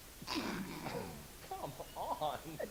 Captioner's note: laughs